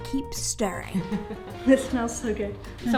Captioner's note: laughing